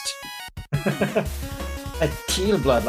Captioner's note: chuckles